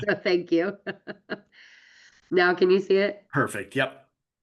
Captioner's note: laughs